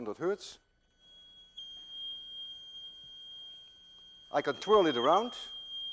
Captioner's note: machine emits high-pitched tone